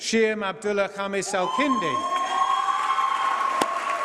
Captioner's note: applause